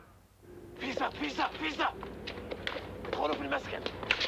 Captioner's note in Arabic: صوت منطوق باللغة الإيطالية